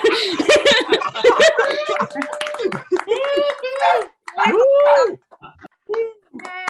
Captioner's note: attendees laughing; attendees cheering